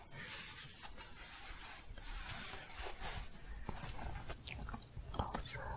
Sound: shuffling and scratching

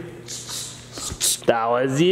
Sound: makes funny noise

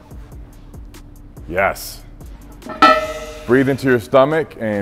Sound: weights clanging

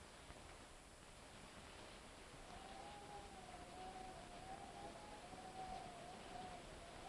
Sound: wind howling; thunder rumbling

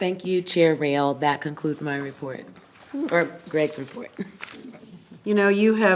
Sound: chuckles

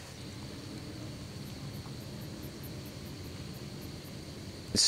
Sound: various swamp sounds

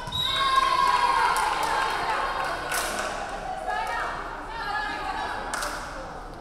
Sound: referee whistling; crowd cheering

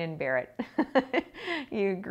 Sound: laughing

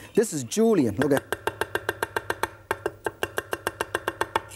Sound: fast chopping

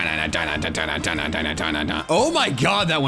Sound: vocalizing

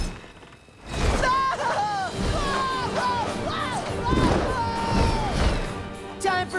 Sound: screaming

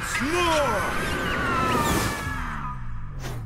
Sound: Ulth-Lah-Throth screams

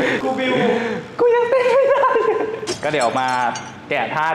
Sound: laugh

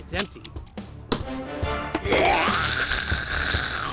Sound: gun thuds, and clatters; zombie growls menacingly

